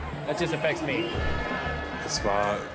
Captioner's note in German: Stadionlärm